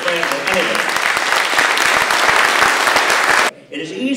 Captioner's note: applause